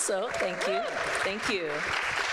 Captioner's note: people clapping